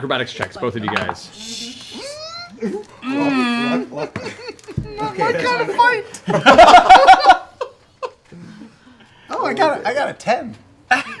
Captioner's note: laughing nervously